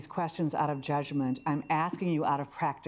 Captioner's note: alarm beeping